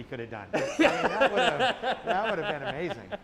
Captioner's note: laughs